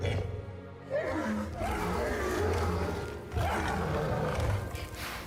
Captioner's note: Trico growls